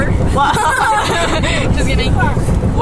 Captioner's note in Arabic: يضحك